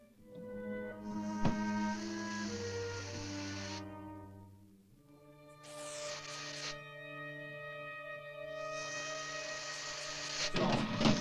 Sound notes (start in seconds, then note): 0.1 ominous music; 1.3 snake hissing